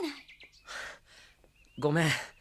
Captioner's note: sigh